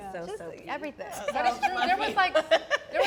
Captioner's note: laughs